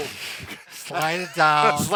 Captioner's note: laughs